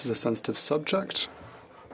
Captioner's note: speaking French